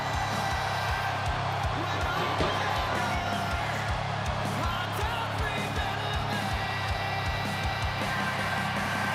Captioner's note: applause